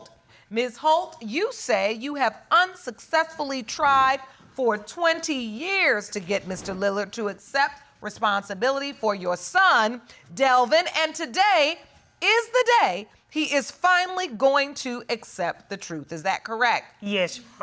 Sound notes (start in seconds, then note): none